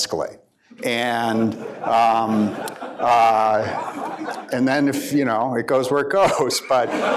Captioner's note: laughter